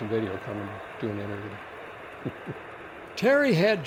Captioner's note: laughs; voiceover